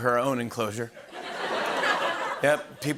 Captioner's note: laughter